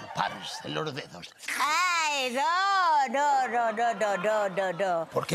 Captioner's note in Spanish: Risas